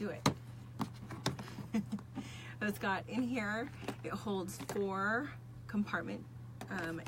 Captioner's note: laughs